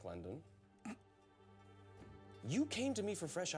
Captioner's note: clears throat